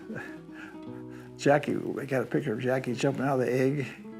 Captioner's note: laughs